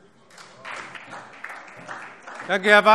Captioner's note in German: Beifall SPD